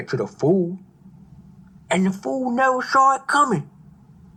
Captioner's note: none